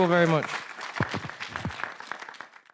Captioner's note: participants applauding